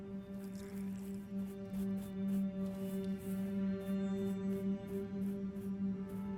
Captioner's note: soft somber music; paint brush swishing